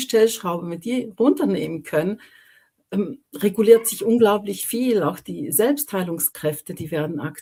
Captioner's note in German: räuspern